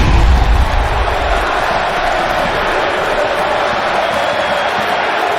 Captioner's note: explosion booming; crowd cheering